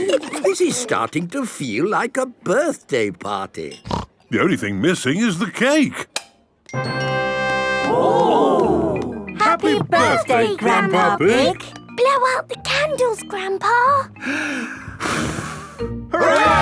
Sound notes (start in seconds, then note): 6.1 click; 14.2 breathes deeply, blows